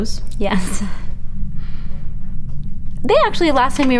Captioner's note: chuckles